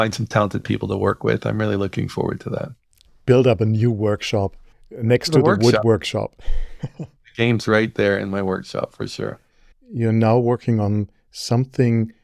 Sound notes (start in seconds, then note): 5.3 laughs